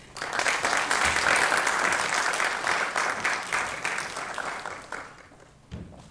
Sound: applause

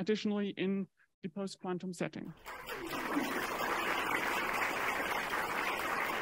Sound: crowd clapping

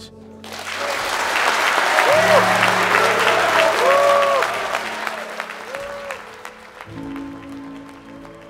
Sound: applause, cheers

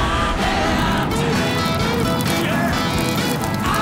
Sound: rocket exhaust; debris, pebbles clatter

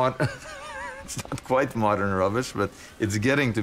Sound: laughs

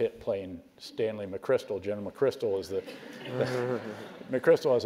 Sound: laugh

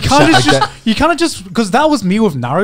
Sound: laughing

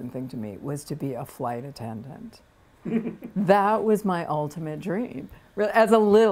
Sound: laughter

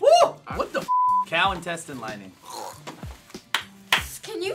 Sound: gagging

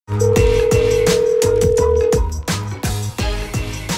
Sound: phone ringing

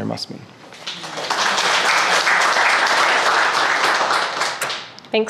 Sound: crowd applauding

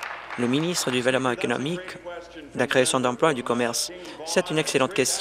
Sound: applause

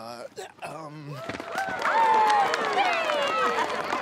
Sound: cheering

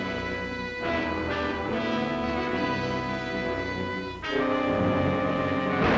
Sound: gunshots are heard

